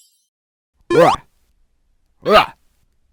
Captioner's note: its money's classic video game jump sound gag!